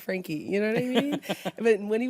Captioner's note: laughs